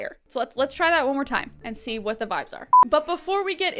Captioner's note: none